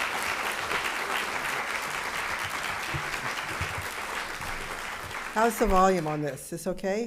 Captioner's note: applause